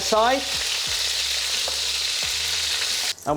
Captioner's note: sizzling sound